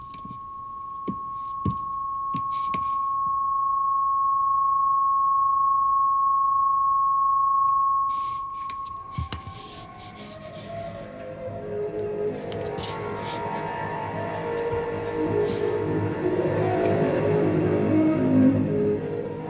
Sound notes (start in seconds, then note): 0.1 feet thudding; 9.1 feet shuffling; 10.8 discordant music continues